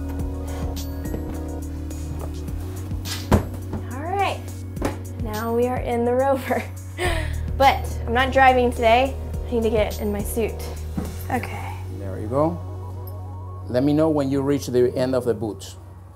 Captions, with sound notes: (soft energetic music) All right, now we are in the rover. (laughs) But I'm not driving today. I need to get in my suit. OK. - There you go. Let me know when you reach the end of the boots.